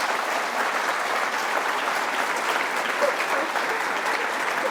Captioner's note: applause